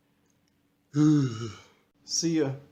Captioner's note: exhales